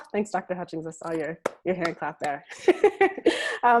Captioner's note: laughs